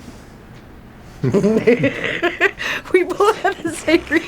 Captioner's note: laughs